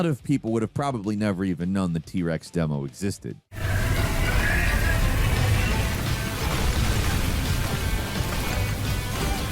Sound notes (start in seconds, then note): 3.9 T-Rex blowing fire; 6.5 exciting music